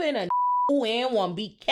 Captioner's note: beep